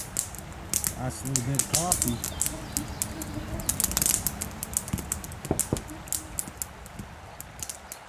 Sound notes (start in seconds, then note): 4.8 knocking